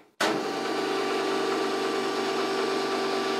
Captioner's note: machine noise